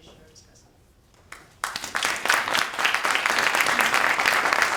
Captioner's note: members applause